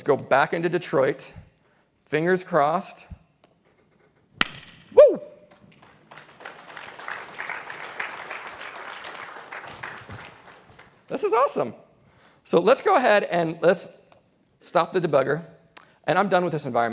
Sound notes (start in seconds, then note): 5.4 applause